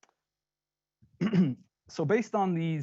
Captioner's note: clearing throat